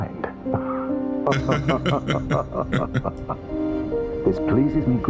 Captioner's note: both Laugh